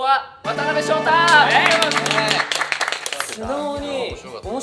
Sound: applauds

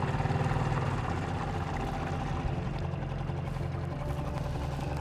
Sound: engine purring; gentle music

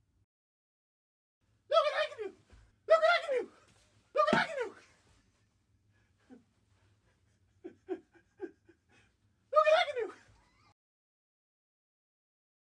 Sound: deranged laughter

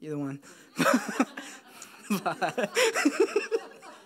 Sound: laughs

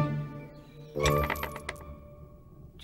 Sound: coins clink

